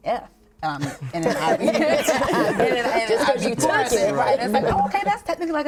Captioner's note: laughs